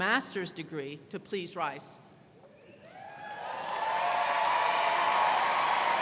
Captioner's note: crowd cheering